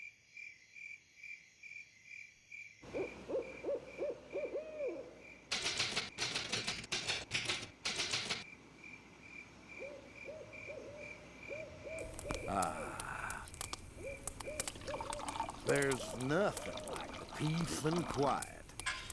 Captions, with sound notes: [crickets chirping] [owl hooting] AH. THERE'S NOTHING LIKE THE PEACE AND QUIET